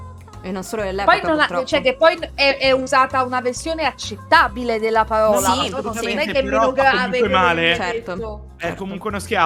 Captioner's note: in Italian